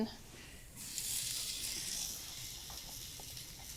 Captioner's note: pan sizzling